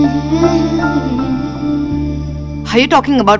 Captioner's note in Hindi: none